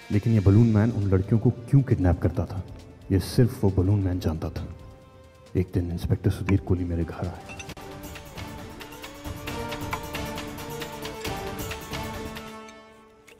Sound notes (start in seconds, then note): 10.0 Glass sound